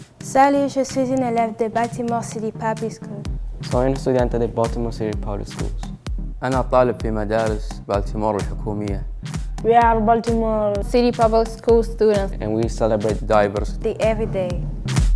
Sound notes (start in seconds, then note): 0.2 speaking in French; 3.6 speaking in Spanish; 6.3 speaking in Arabic